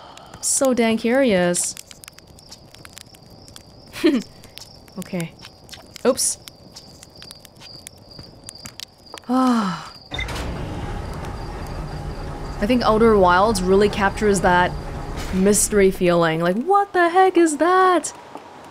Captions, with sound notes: So dang curious. Okay. Oops. *sigh* I think Outer Wilds really captures that mystery feeling, like: ''What the heck is that~''